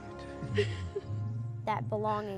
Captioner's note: laughing